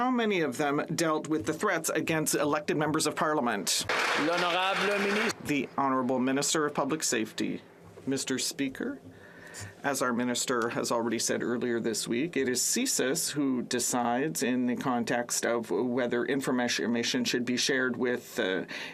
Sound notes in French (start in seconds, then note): 6.0 applaudissements